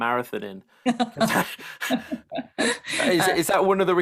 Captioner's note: laughs